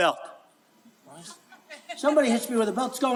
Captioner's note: laughing